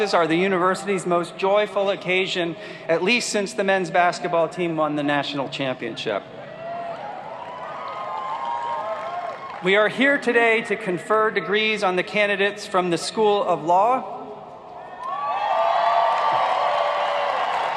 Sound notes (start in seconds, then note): 7.4 applauding; 15.4 applauding